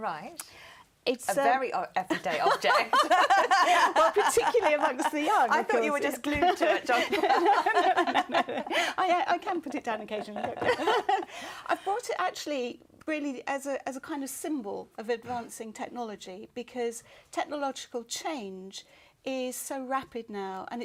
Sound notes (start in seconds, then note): 2.1 laughter